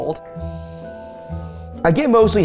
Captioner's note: sniffs